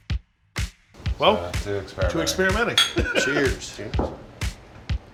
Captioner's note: laughs